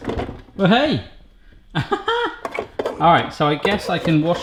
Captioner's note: laughing